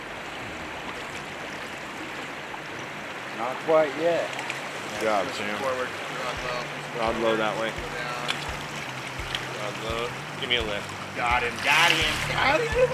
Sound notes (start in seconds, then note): 2.7 water flowing